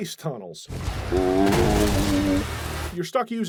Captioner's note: zombie groan